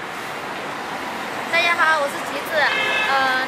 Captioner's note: Mandarin